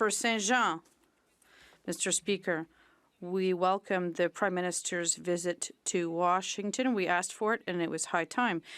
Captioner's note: speaking French